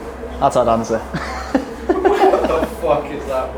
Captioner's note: laughs